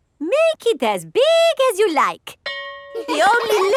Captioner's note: school bell rings; children laughing